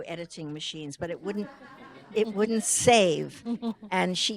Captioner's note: audience laughing